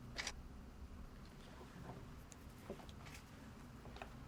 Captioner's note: shutter clicking